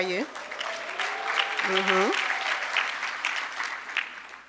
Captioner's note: audience applauding